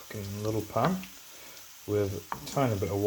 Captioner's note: pop, pOP!; pop!